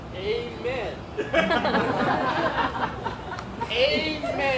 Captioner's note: audience laughs